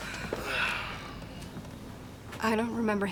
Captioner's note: sighing